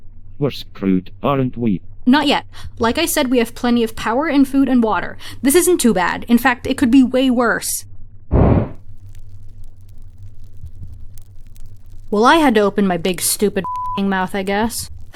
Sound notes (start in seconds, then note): 8.3 fire woosh